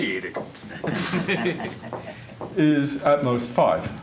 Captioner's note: laughter